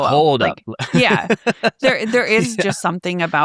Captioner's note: laughs